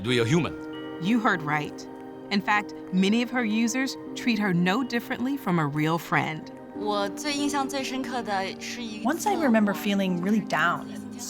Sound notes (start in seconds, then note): 7.6 speaking Chinese dialect